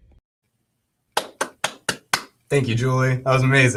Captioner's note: claps